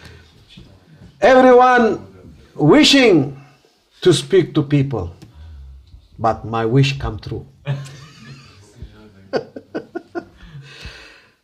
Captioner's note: laughter